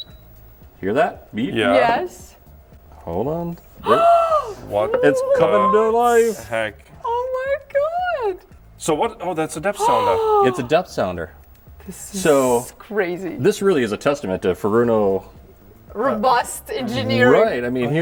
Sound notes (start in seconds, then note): 0.0 device beeps; 3.8 gasps; 9.8 gasps